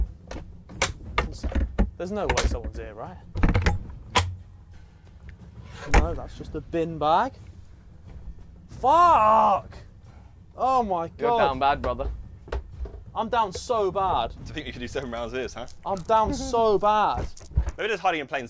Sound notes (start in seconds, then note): 0.3 door clanging; 5.8 door opens